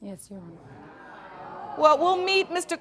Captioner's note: audience exclaiming